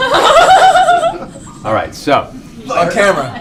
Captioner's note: laughter